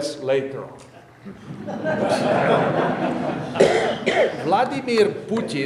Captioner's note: audience laughing